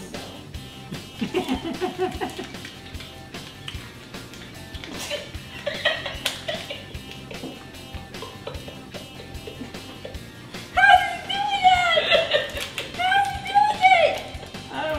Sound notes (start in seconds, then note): 0.9 laughing